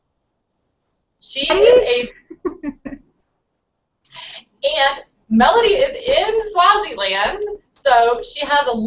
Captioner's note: haha